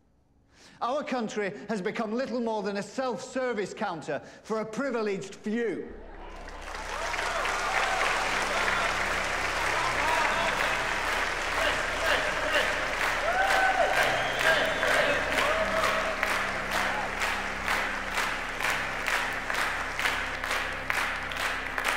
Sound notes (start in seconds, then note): 6.3 applause; 10.7 cheering, chanting